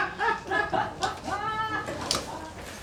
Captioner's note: laughter